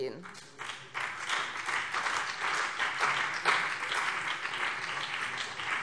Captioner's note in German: Beifall BÜNDNIS 90/DIE GRÜNEN und CDU